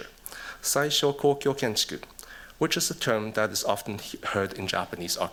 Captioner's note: speaking japanese